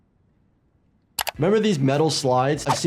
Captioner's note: mouse clicks